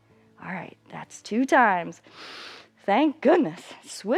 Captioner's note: inhales